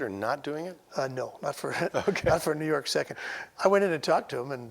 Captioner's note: laughing